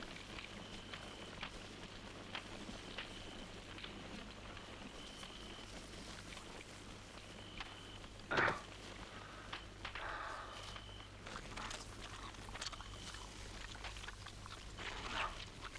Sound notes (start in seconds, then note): 8.3 Torente grunts; 12.8 Torente chewing